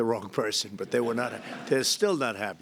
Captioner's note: laughter